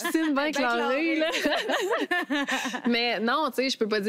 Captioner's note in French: rires